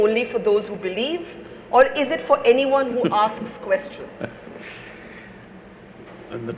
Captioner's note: Sadhguru laughs